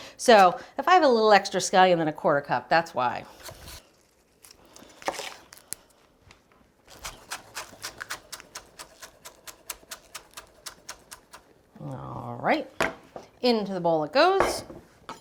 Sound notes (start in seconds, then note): 6.9 knife chopping